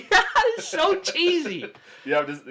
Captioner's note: laughing; laughs